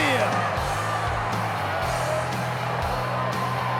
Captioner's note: audience cheers